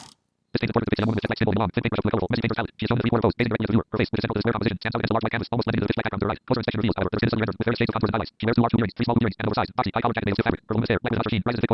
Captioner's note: reading visible text rapidly